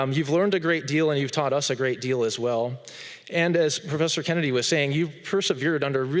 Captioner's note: none